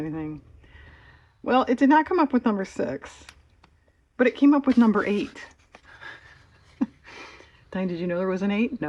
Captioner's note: laughs